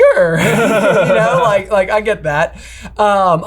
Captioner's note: chuckles